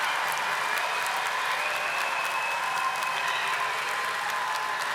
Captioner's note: audience applauding